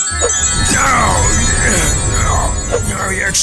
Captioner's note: bowser screams